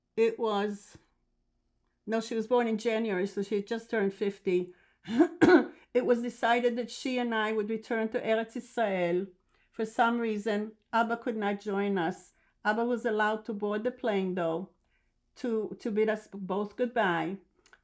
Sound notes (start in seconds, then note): 5.2 clears throat